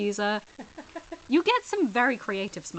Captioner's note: laughs